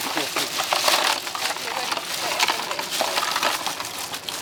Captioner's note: loud clattering; giggles